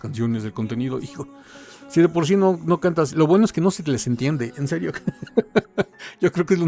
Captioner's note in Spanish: risas